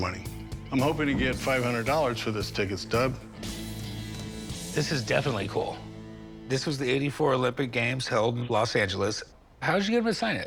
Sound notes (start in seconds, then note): none